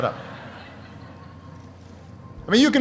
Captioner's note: laughter